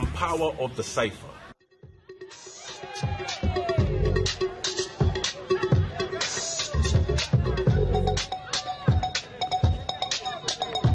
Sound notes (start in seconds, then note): 3.5 crowd cheering; 8.2 hip hop music